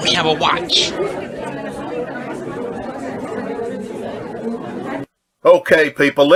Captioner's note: people chattering indistinctly